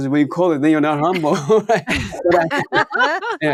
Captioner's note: all laughing